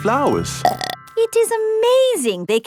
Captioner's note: burps